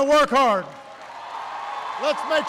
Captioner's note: applause